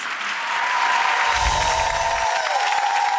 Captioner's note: applause